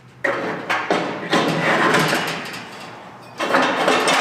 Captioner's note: metal clanging